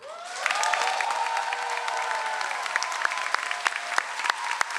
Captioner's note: audience applauds